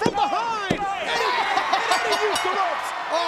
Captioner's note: ring bell dinging